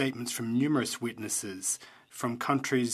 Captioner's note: speaking French